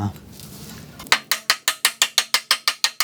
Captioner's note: hammer tapping